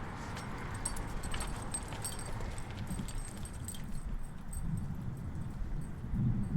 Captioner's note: dog tags jingling; footfalls scuffing